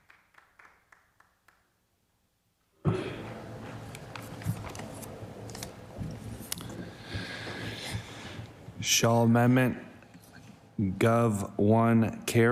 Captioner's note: some Applause